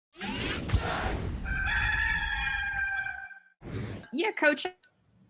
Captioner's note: rooster crowing